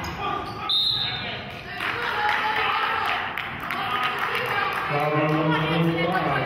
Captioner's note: whistle blows; clapping